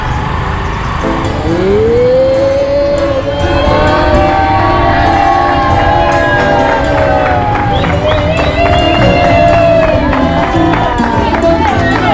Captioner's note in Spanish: Aplausos